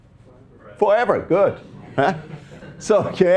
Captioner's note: students laughing